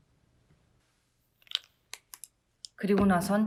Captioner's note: clicking Sound